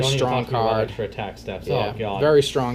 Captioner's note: shudders audibly again